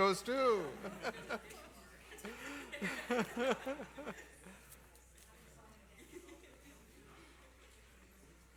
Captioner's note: laughter